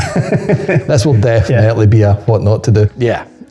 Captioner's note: laughs